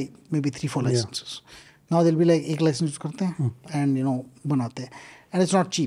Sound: speaks in Hindi

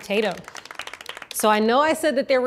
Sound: audience applauding

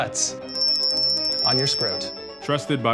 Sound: trophy ringing

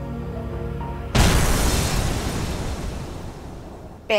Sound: bomb blast

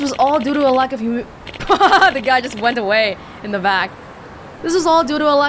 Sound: chuckles

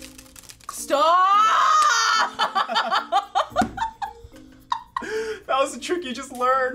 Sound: laughs

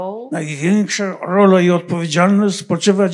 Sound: foreign language

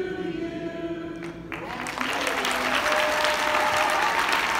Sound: applause and cheers

